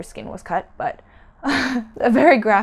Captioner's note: laughs